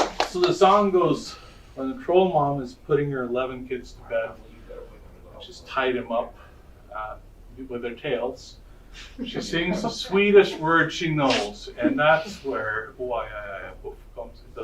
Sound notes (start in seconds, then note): 9.2 audience laughter